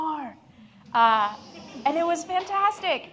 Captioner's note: audience laughs